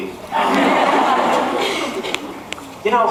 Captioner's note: laughs